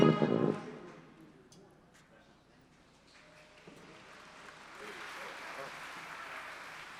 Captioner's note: applause